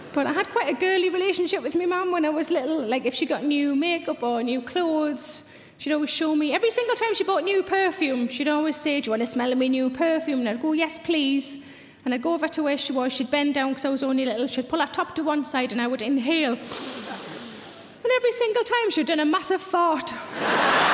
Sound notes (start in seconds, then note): 16.6 sniffs; 20.3 audience laughing